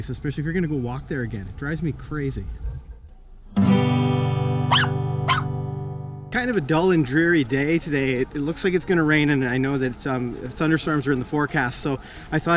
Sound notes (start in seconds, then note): 4.6 squeaky dog barking